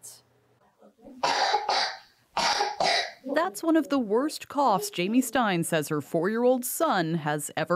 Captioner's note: coughing